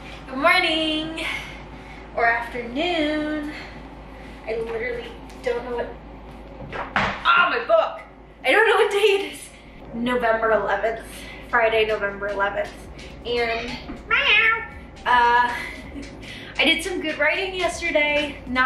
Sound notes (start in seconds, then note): 6.9 book falling; 14.0 cat meowing; 15.7 giggling